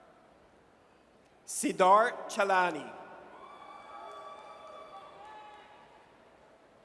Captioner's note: audience cheers